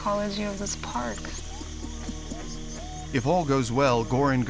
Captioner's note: chittering